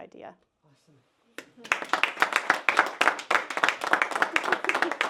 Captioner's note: applause